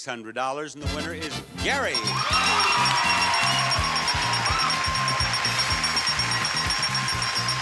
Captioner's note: bell dinging, audience cheering and clapping